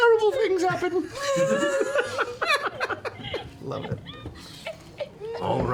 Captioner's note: laughter